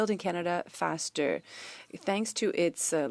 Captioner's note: speaking French